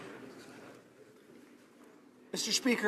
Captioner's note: some Applause